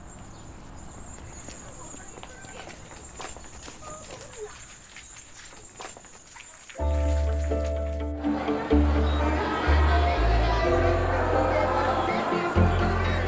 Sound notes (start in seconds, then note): 2.5 footsteps thumping; 6.8 rhythmic music